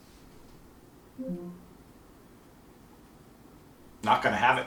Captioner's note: Alexa beeping